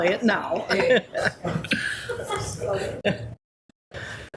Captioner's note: people laughing